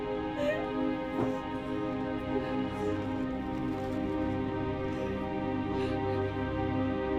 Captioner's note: somber orchestral music; crying